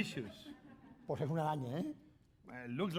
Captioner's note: speaking spanish